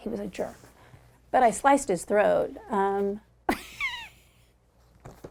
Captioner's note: laughs